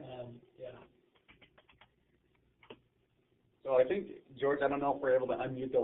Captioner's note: typing